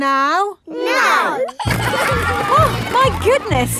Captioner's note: giggling